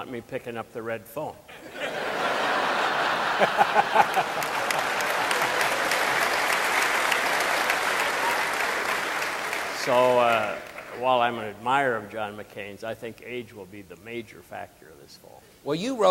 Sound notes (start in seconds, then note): 1.5 audience laughing and applauding